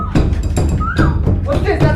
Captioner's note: cries